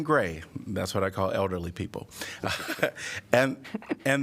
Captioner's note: laughter